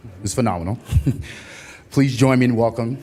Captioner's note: laughter